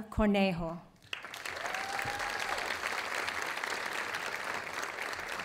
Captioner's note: audience applauding